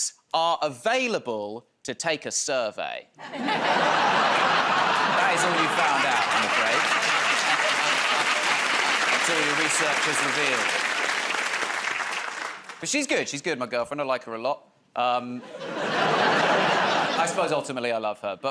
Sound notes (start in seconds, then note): 3.2 laughter